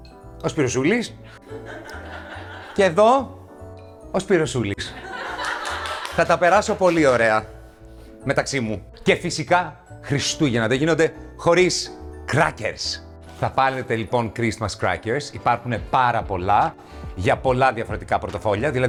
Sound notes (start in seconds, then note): 1.3 laughs; 5.0 laughs